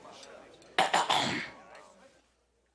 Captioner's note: <i>lively chatter</i>; <i>clearing throat</i>; <i>chattering stops</i>